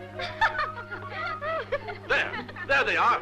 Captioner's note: laughing